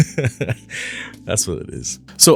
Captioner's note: laugh